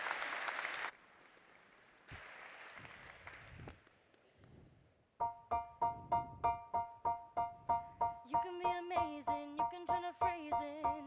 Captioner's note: applause